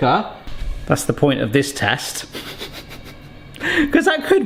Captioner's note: laughs